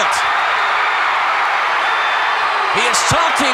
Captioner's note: audience cheering